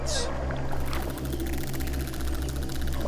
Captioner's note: dolphins clicking